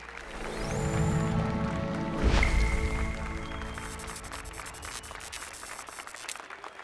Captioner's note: applause and cheers